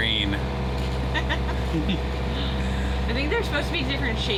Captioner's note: both laugh